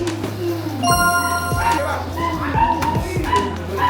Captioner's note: laughs; clunk of knee; idling dogs barking